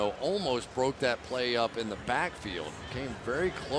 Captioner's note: none